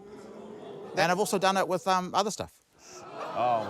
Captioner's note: audience groans